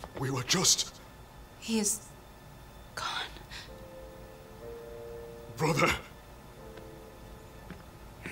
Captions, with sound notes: We were just... He is... gone. -Brother! -[footsteps approaching]